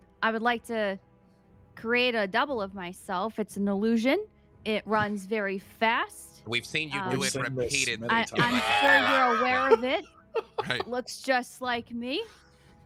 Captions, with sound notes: I would like to create a double of myself. It's an illusion. It runs very fast. - We've seen you do it repeatedly. (chuckling) - I'm sure you're aware of it. Looks just like me.